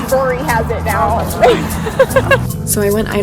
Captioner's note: laughing